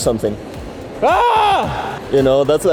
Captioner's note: screams